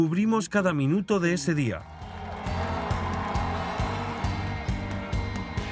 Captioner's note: crowd cheering